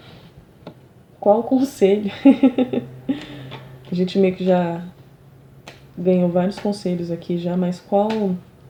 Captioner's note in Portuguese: risadas